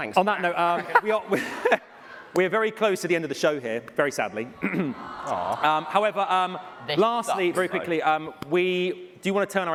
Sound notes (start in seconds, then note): 5.0 cheering